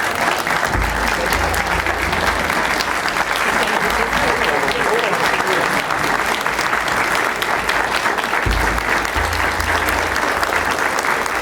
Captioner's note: applause